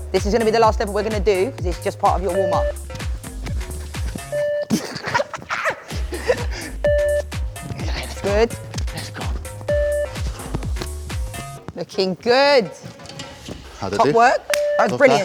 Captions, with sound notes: This is gonna be the last level we're gonna do cos it's just part of your warmup. (beep) (beep) (laughing) (beep) It's good. Let's go. (beep) Looking good! Top work. That was brilliant.